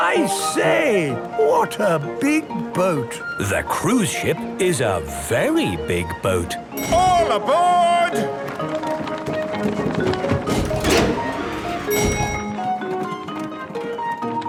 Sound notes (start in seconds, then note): 11.6 dinging